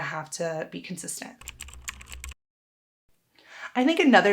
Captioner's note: keyboard clicking